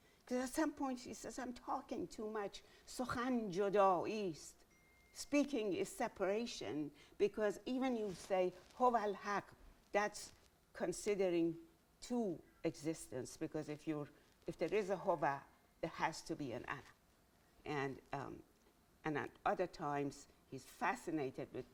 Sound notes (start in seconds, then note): 3.0 speaking in Farsi